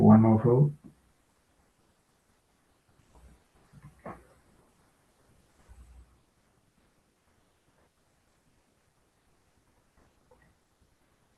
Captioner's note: pause